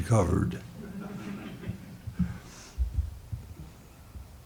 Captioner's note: audience chuckling